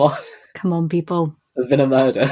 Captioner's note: laughs